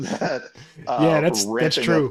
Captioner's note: laughing